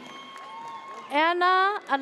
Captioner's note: audience cheers